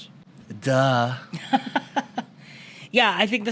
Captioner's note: laughter